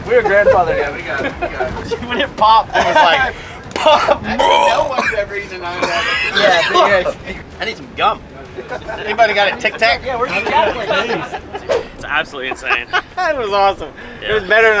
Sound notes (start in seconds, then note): 1.8 men chattering; 4.3 retching sound; 5.8 coughing drowns out speaker; 8.4 laughing; 10.5 men chattering; 12.9 laughs